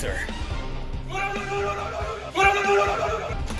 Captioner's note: x10?, fighting noises